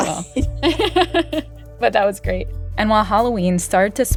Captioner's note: laughter